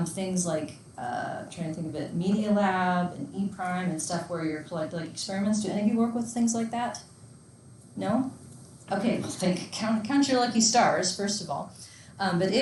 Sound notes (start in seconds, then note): none